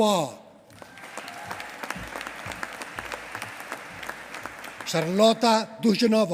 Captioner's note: applause